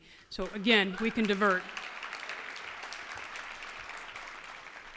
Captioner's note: applause